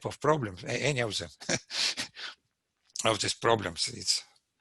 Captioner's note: laughs